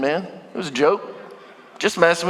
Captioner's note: congregation laughing